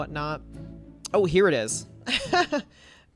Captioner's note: laughs